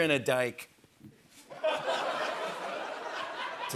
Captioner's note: laughter